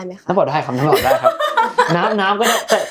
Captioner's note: laughs